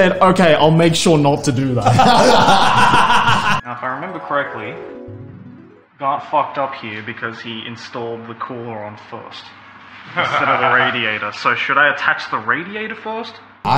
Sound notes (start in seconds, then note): 1.8 laugh; 2.0 mystical music